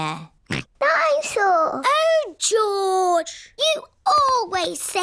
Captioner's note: snorts